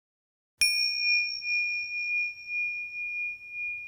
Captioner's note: bell chimes